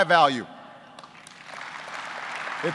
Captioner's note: applause